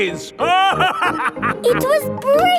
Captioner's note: laughing